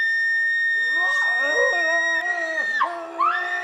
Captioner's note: screams; muffled groans; both scream